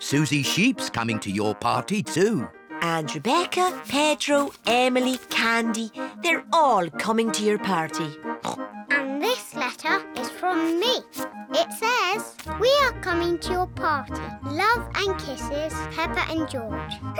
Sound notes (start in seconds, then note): 8.4 oinks